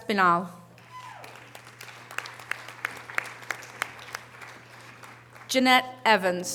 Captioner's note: audience cheering and applause